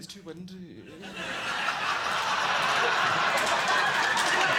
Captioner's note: audience laughing